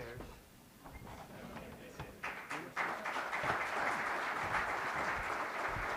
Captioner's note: applause